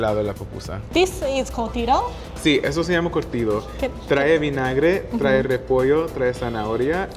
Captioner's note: speaking Spanish